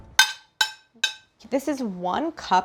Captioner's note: plate clanging